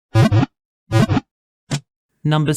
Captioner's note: Pokéball wiggle sound